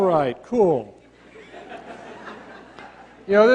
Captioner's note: laughter